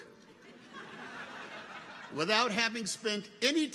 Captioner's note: audience chuckles